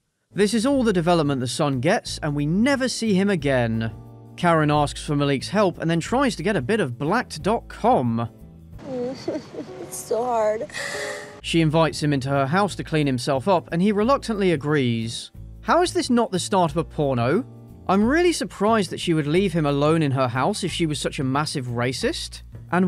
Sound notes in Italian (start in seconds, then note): 8.8 Karen singhiozza